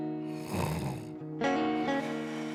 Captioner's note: snoring